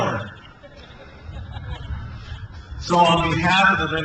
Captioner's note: crowd laughs